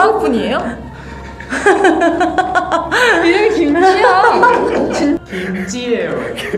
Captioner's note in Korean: 웃음